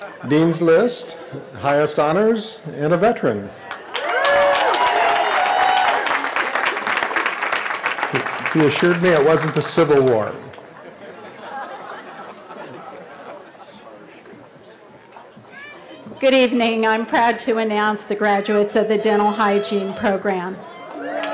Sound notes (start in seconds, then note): 3.6 cheering; 13.1 laughter; 20.6 cheering